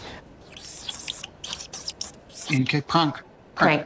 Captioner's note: marker squeaks